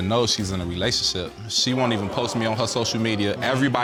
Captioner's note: audience gasping